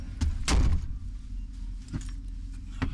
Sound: door slam

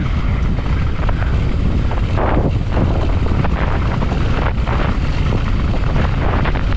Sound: tires rumbling; wind whipping

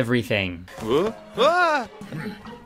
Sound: yelling; chugging, gulping

